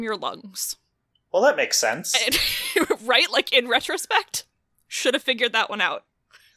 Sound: laughs

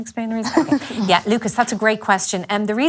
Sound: laughes

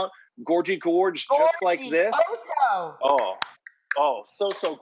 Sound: claps

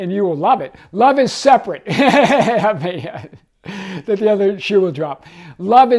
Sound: laughing

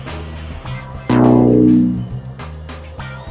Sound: lose tone sounding; anticipatory music playing

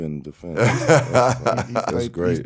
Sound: laughing

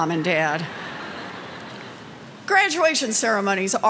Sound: laughter

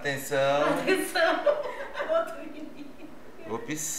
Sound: laughs

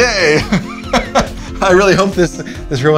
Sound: laughs

